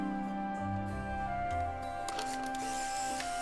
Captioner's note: camera whirring